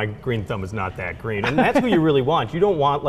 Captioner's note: laughs